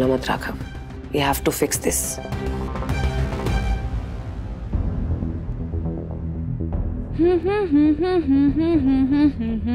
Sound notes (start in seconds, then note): 2.5 intense music playing; 7.0 Pashminna humming